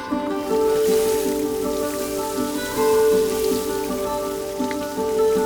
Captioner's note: water sounds